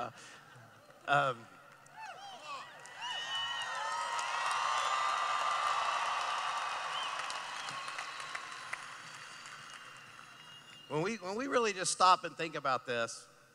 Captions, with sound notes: [Laughing] [Cheering] When we, when we really just stop and think about this.